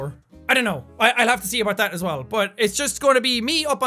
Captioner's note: says in a cute jackaboy voice